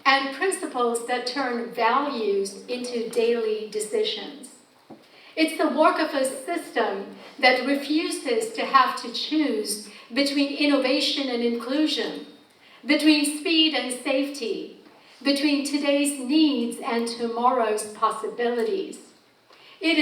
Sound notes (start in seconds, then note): none